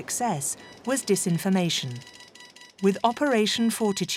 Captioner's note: machines beeping